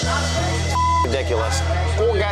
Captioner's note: beep; tense music